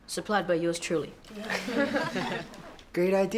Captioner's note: everyone laughing